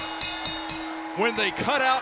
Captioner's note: bell rings